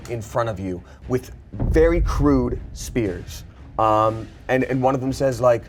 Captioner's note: thump resounds